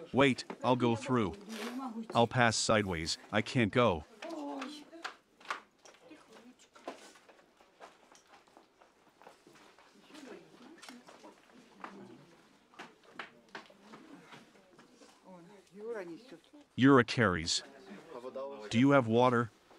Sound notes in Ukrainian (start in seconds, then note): none